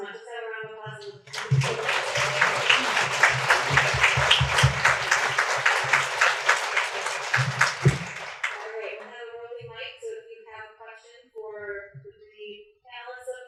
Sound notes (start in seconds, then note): 1.1 audience claps